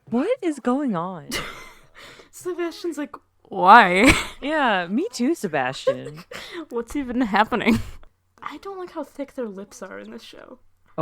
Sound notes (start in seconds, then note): 1.3 laughing